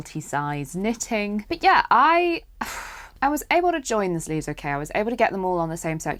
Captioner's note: pfff